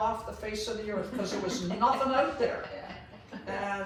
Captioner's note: laughs